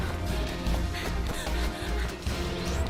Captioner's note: panting